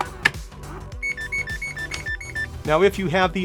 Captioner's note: machine beeping